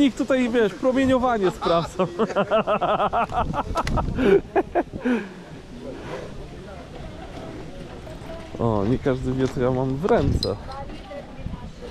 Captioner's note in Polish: śmiech